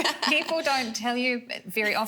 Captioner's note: laughs